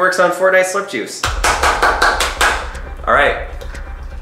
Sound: clapping

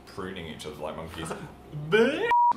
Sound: laughs

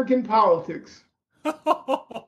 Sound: laughter

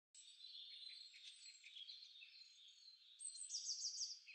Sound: birds chirping

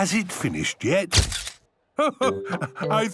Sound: camera clicks

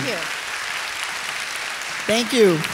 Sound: applause continues

